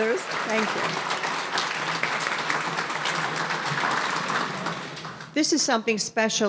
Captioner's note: audience applauding